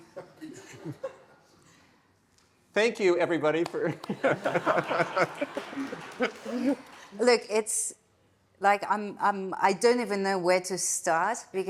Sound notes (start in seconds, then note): 0.1 attendees chuckling; 3.8 attendees laughing; 4.0 laughs